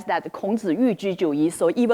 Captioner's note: speaking in foreign language